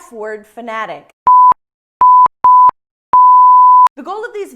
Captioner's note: beep